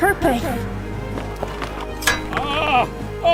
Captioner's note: running